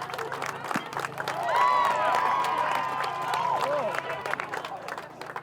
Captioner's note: cheers; baseball hit